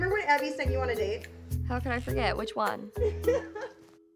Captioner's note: producer laughs